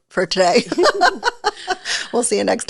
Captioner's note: laughs